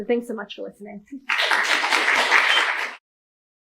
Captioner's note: applause